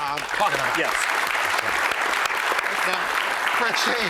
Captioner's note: applause